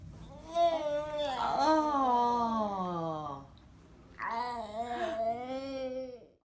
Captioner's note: groaning